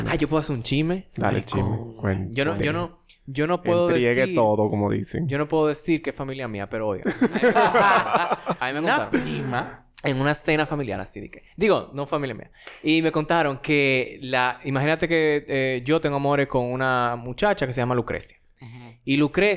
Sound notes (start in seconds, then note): 1.9 whispers; 7.1 laughs